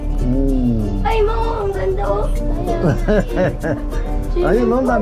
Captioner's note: laugh